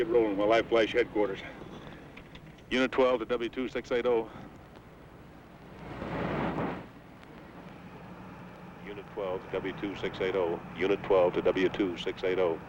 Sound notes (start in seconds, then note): 6.5 car engine revving